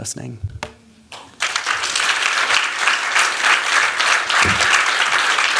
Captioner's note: applause